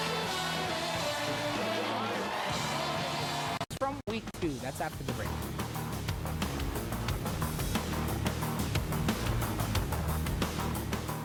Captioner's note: cheers and applause